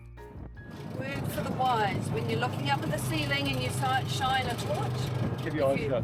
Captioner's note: engine noise